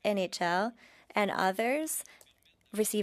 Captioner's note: speaking French